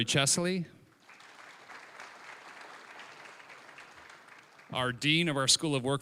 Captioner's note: applause